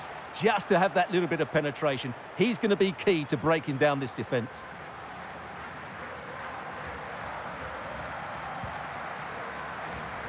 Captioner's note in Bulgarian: Аплодисменти